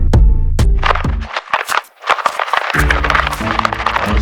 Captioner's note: paper crunching